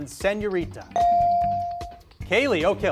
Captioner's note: beep